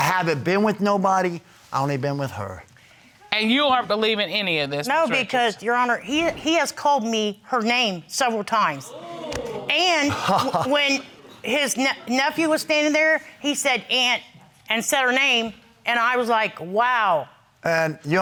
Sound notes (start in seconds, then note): 8.9 crowd gasping; 10.0 laughing